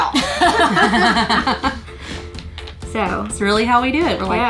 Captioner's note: group laughs